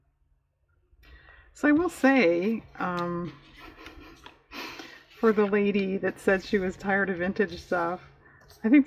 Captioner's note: laughs